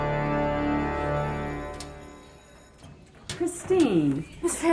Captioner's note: school bell rings